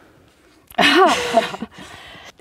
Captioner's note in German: Sie lachen